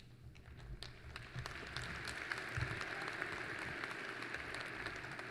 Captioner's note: applause